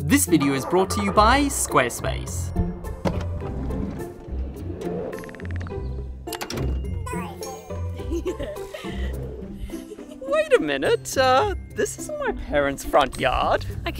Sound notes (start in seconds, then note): 2.5 cheerful music; 4.1 van door slides; 7.1 baby cooing; 7.8 giggling